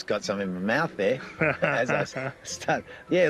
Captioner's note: chuckles